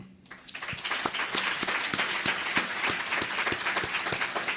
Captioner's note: audience applause